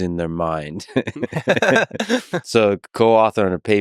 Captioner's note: Tim and Lex laughing